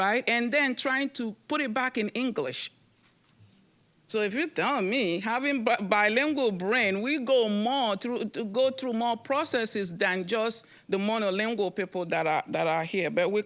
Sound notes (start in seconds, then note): none